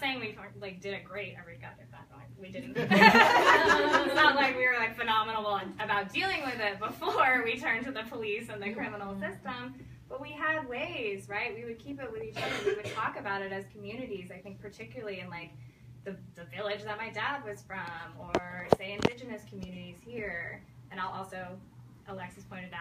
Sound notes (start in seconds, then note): 2.8 audience laugh